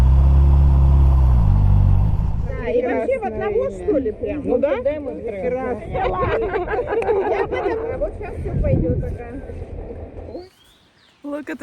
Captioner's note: in Russian